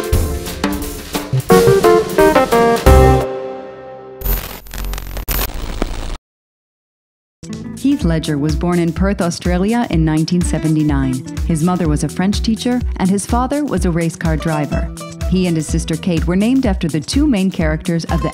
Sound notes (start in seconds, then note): 4.2 static buzzes